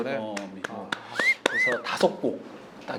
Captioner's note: applause